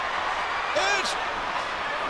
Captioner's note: audience cheering